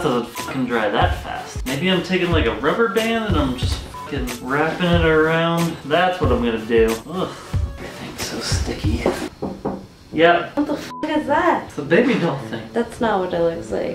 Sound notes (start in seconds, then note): 8.8 knocks on door three times